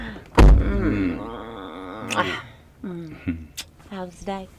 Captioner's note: both laughing; both moaning